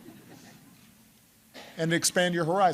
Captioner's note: laughter